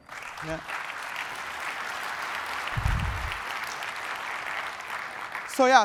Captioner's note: applause